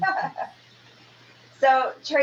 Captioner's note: laughing